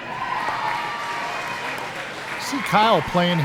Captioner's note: cheering